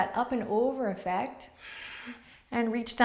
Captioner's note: exhales